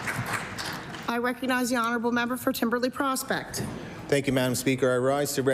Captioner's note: applause